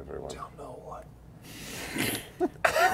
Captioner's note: whispering